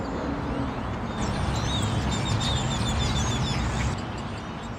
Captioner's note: traffic humming; birds singing